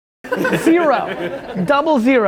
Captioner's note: laughs